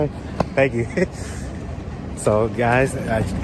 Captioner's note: chuckles